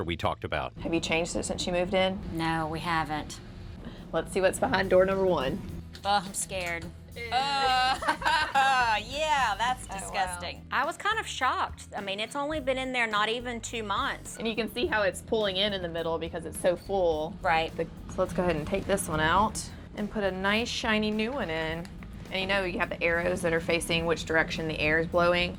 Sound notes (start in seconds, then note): 7.2 laughing